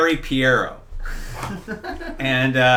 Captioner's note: laughing